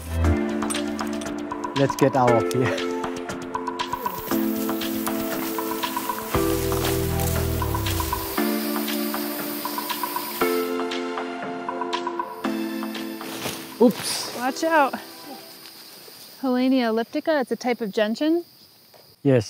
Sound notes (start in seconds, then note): 4.5 upbeat music; 8.6 water running